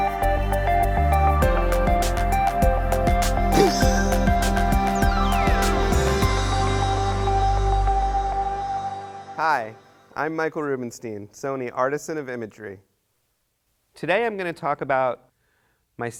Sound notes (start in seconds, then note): 3.5 laughs